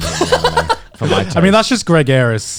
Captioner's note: laughs